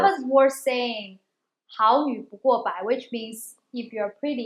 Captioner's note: speaking in chinese